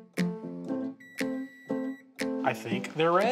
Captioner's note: timer buzzer